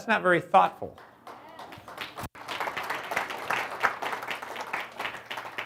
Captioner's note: audience applauds